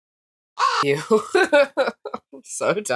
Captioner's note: caw